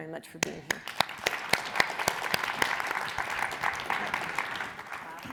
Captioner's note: audience applauds